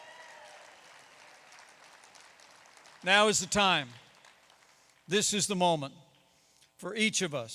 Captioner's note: applause